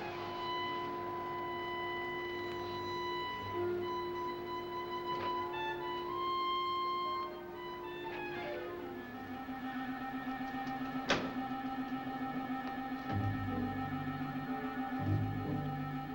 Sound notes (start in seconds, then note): 0.0 tense music; 11.0 door slamming